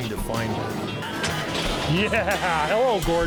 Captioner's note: garage door opens